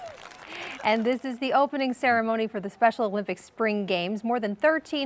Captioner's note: applause